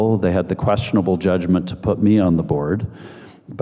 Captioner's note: none